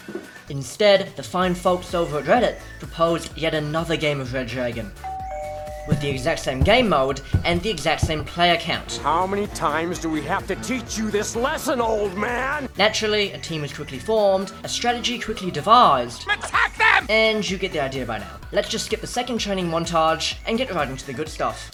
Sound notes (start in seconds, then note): 5.0 doorbell ringing